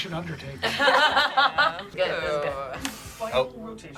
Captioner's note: laugh